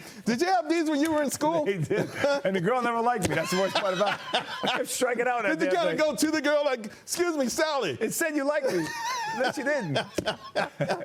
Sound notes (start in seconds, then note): 3.2 laughter; 8.6 laughter